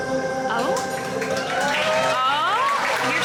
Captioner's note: audience cheering